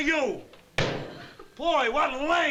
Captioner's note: slam